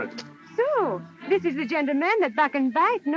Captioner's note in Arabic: none